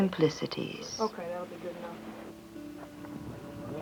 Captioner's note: indiscriminate chatter